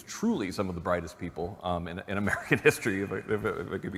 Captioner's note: laughter